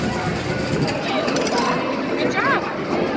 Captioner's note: people chattering; coins clattering